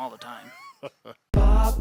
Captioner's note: laughs